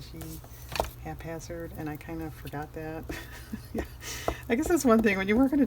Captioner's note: laughs